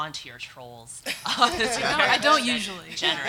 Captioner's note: audience laughs